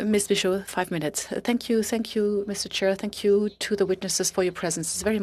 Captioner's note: speaking French